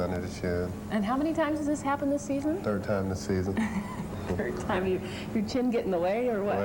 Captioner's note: laughing